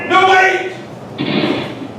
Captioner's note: gunshot